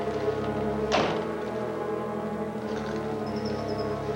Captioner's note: door slamming